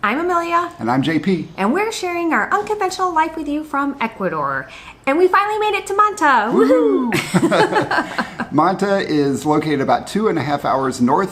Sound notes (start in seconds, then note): 6.6 both laugh